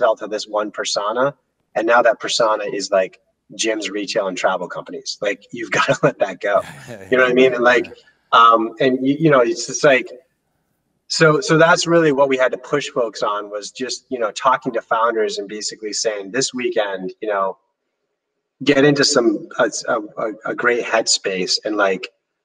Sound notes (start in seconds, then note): 6.5 chuckle simultaneously